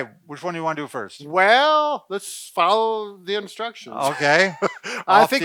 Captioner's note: laughs